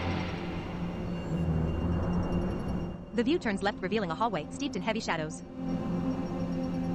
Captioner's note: machinery clanks and whirs